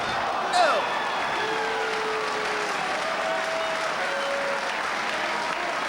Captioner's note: audience applauding